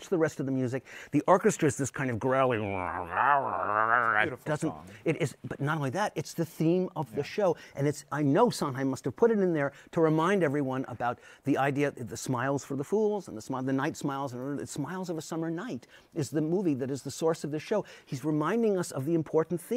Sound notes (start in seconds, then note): 2.7 growling